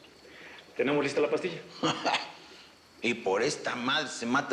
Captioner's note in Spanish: Risas